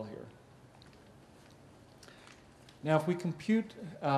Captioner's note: pause